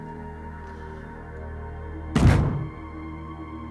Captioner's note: thud